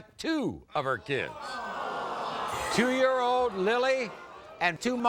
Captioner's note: audience groans